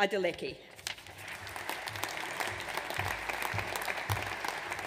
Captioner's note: audience applauds